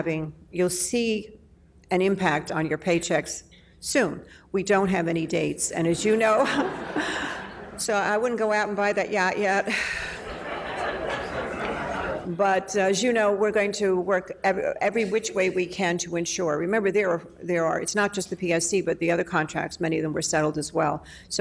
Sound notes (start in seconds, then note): 9.3 laughing